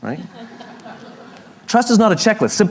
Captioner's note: La audiencia se ríe